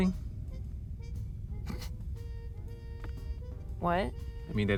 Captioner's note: scoffs